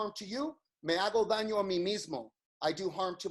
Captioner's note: speaks in foreign language